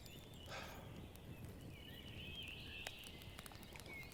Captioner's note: Jim sighing